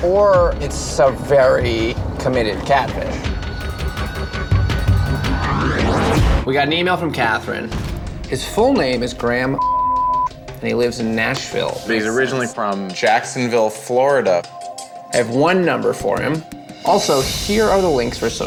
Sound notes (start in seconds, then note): 3.7 suspenseful music; 9.6 beep